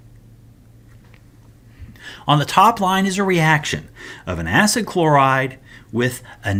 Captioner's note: turn page